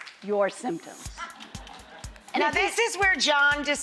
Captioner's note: audience laughs